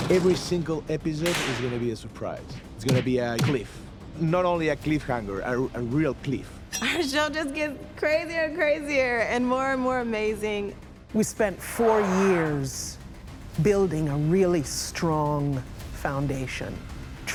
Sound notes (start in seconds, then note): 3.4 thump; 6.5 clank of metal